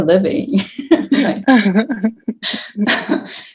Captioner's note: all laughing